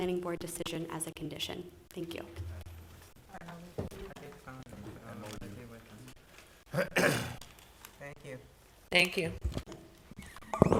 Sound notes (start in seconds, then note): 3.2 board chatting quietly